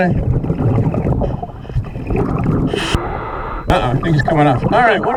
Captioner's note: water burbling